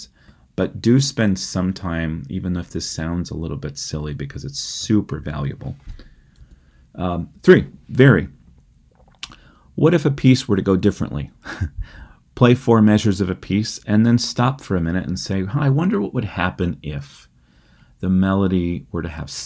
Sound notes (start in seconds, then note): 11.4 laughter